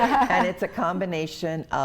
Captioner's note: laughs